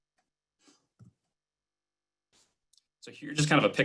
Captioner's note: clicking